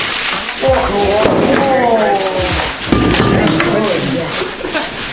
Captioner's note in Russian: стук замороженной рыбы